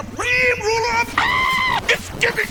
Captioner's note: screaming